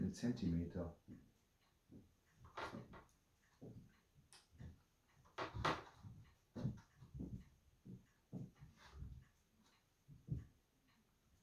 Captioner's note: footsteps